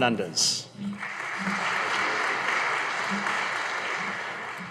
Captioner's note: audience applauding